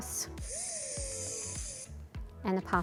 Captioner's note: Dash whirring